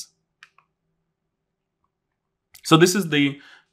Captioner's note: remote clicking